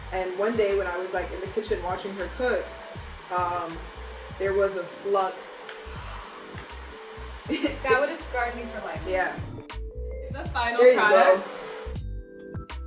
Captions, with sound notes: And one day when I was like, in the kitchen watching her cook, there was a slug! - [gasps] That would of scarred me for life. - Yeah. - The final product. - There you go!